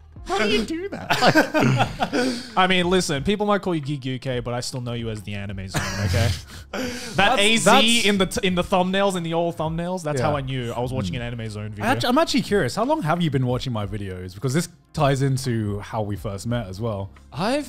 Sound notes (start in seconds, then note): 0.8 laughing; 5.7 laughing